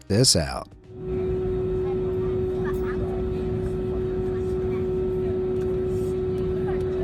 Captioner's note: engine whirring; passengers chattering